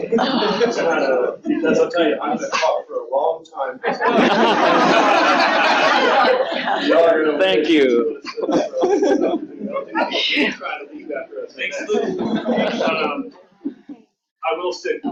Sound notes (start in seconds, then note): 3.8 laughter; 7.7 audience conversation